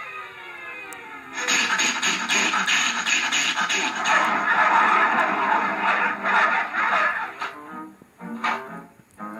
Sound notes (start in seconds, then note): 1.3 blows; 4.1 barking